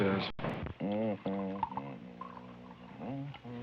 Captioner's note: humming